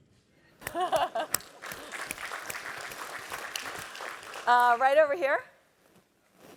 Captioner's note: applause